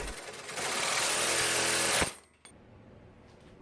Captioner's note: saw cutting metal